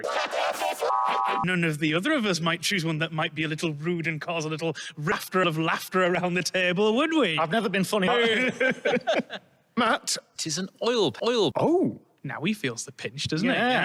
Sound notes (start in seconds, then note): 0.1 demonically multi-pitched to b-minor chord; 1.6 sarcastically; 8.0 laugh